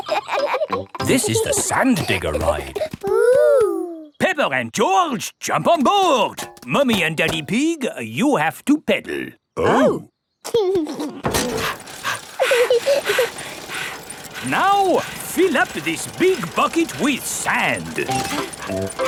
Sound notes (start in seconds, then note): 0.0 kids laughing; 10.8 chuckles; 11.3 mummy pig panting; 11.4 daddy pig panting; 12.7 peppa chuckles